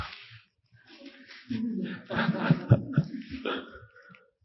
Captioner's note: audience laughs